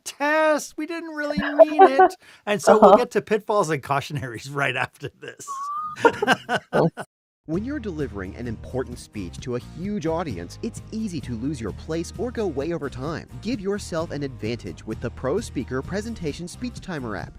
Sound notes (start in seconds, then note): 7.5 voiceover